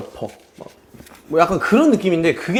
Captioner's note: haha